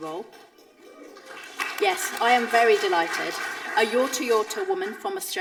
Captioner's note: audience applauding